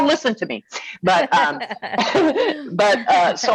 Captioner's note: laughing